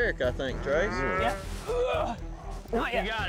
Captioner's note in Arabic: خرخرة